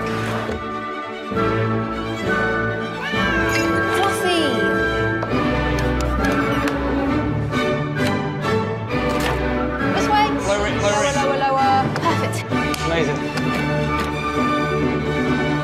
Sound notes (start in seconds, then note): 0.2 orchestral music; 2.9 meow; 4.1 orchestral music; 13.4 orchestral music